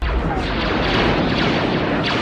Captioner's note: pew, pew